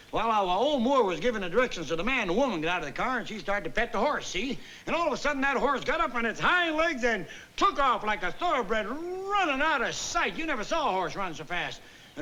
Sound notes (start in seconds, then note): none